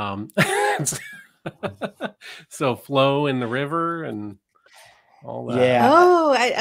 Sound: chuckles

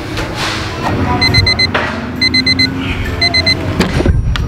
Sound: alarm beeping

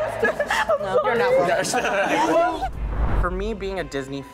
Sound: all laughing; all laughing and talking

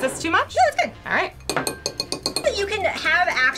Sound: spoon clanking

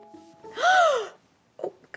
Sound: Hermione Gasps

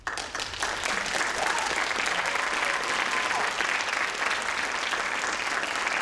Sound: crowd applauds; crowd cheers

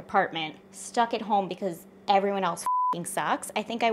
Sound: beep

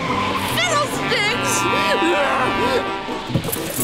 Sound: honking

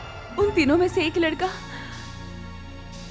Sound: none

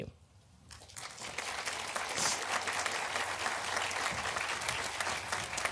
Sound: audience applauding

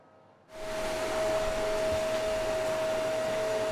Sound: vacuum whirs

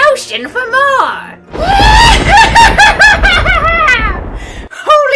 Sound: laughs evilly

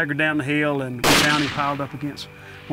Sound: gunshot

